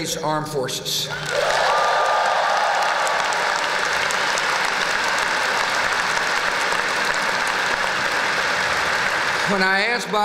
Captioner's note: applause; whoop!